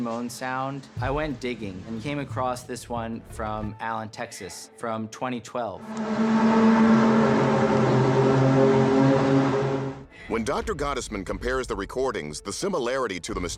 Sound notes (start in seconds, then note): 5.6 groaning sound